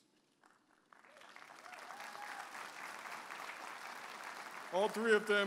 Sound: audience applauding and cheering

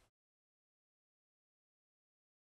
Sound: silence

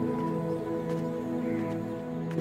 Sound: footsteps

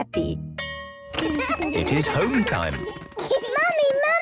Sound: school bell ringing

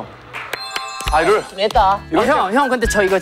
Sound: applause to cool ourselves

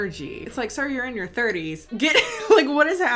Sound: laughs

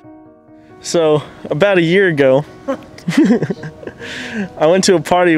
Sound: laughing

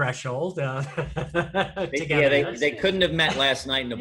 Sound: laughs

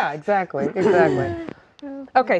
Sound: laughing

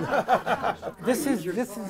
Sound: chuckles

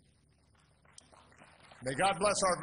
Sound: applause

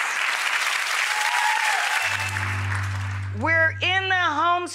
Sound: audience clapping

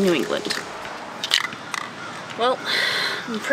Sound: empty can rattling

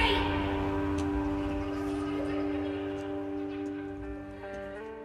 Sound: distant screaming

